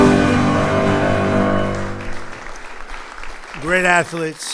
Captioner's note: applause